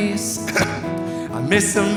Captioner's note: Trixie clears throat